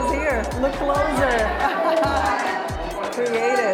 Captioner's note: laughs